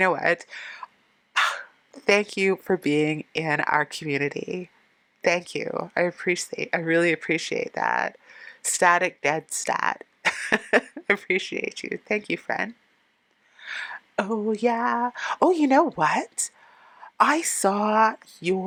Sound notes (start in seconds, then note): 10.2 laughing